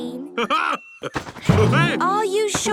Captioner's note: laughs